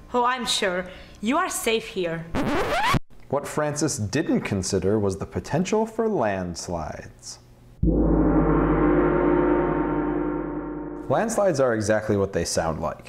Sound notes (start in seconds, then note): 7.8 gong